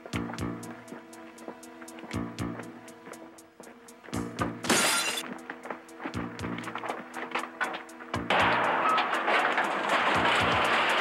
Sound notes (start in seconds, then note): 4.6 glass crashing; 8.1 junk banging